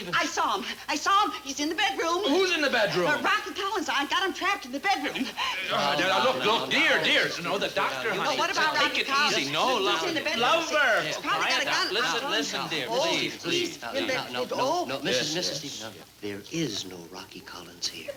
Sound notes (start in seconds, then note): 7.1 loud fuss